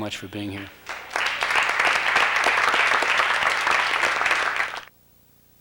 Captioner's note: applause